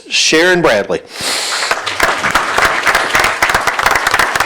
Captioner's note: applause